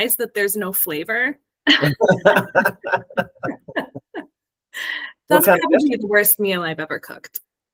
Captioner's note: laugh